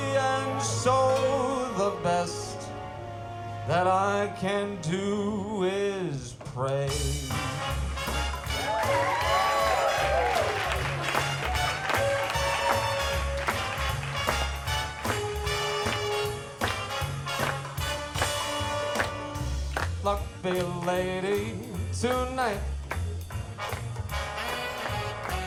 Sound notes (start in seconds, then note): 7.3 upbeat, jazzy music; 8.3 audience cheers